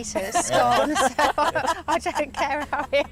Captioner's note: laughter